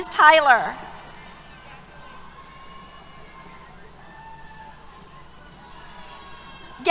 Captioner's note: cheers